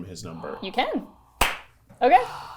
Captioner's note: claps